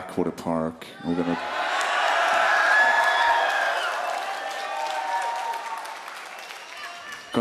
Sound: audience cheering

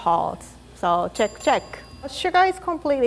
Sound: bell ringing

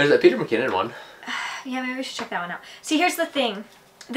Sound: sighs

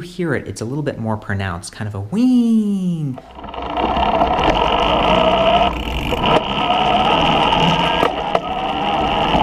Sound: weeeeeng 00:05:16

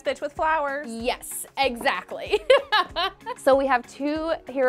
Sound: laughs

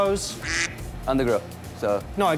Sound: quacking

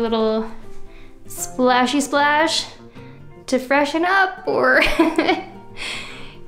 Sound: laughs

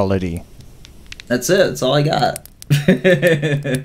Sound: laughs

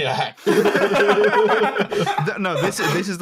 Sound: laughter; laughter continues

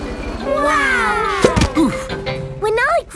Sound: crowd

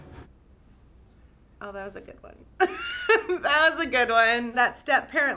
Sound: laughs

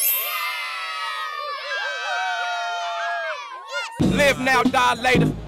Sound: cheers

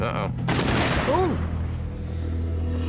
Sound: explosion

